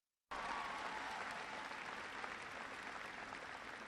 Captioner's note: applause